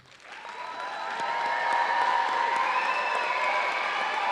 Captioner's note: audience applauding